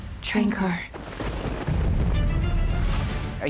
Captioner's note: thunder rumbles